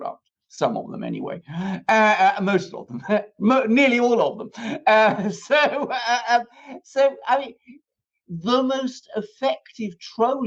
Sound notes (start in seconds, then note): 5.6 laughter